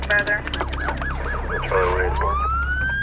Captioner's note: sirens